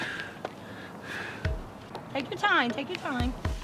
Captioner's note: panting